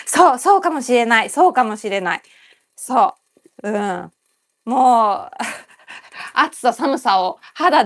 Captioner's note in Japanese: 笑い